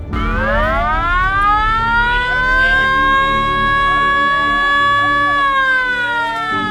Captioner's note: bunker alarm